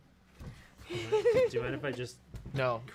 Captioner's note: giggles